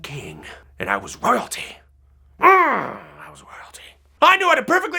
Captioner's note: growl